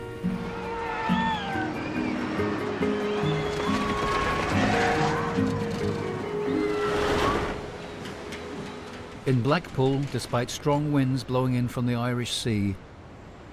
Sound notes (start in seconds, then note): 0.2 lighthearted music; 0.2 riders screaming; 3.4 carts whooshing; 7.6 big wheel whirring